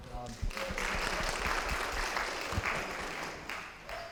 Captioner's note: audience applauding